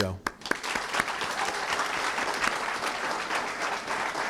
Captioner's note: applause